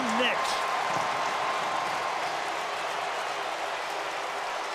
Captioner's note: cheering